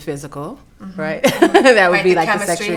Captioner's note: laughing